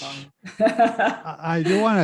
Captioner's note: laughing